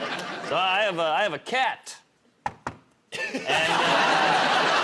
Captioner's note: knocks on table